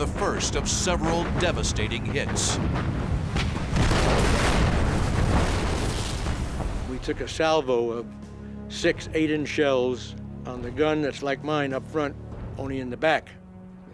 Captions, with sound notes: of several devastating hits. [explosion] We took a Salvo of six 8-inch shells on the gun that's like mine up front, only in the back--